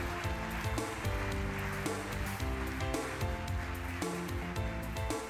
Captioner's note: audience applauding